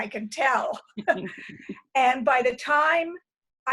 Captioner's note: chuckles